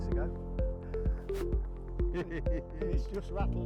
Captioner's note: laughing